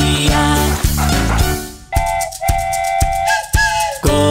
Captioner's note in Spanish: Sonido de tren